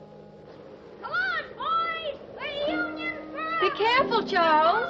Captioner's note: young yelling